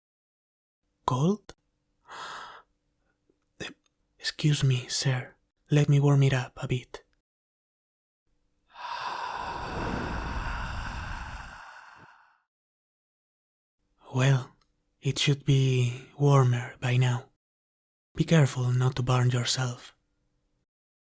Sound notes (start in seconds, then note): 2.1 gasp of surprise; 8.7 sound of dragon's breath